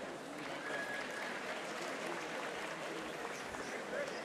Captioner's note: audience applauding